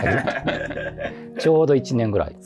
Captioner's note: laughing